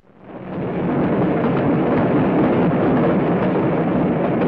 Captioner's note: oil surging